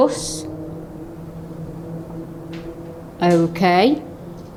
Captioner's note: groaning